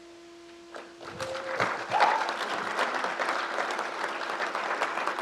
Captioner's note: crowd applauds